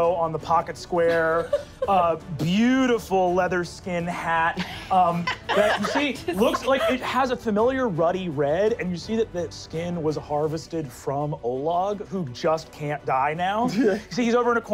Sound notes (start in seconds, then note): 4.5 laughing